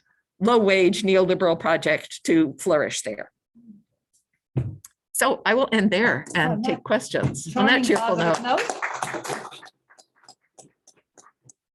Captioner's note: applause